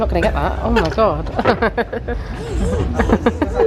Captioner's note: laughs